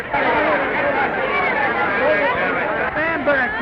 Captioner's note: raucous crowd din